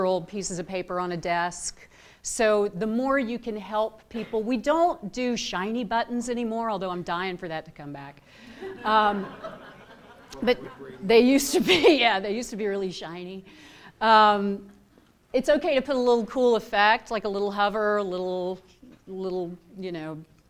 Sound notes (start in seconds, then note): 8.6 laughter